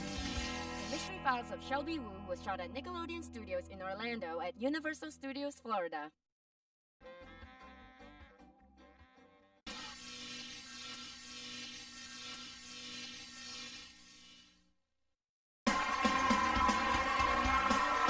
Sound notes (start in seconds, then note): 9.7 electricity zapping